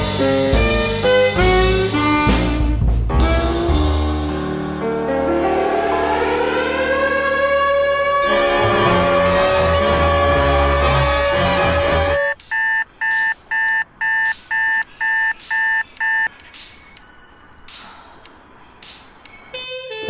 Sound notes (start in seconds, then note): 5.8 siren blows; 12.1 cell alarm buzzes; 17.1 sighs